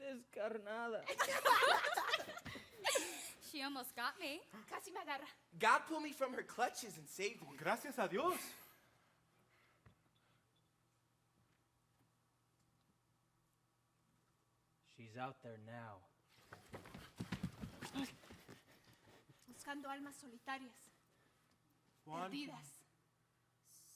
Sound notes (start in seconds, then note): 0.1 speaking Spanish; 1.1 performers giggling; 4.8 speaking Spanish; 7.7 speaking Spanish; 19.7 speaking Spanish